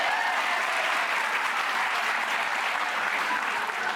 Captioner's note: applause